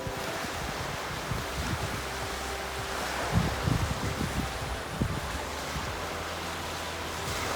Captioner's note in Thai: เสียงคลื่นค่ะ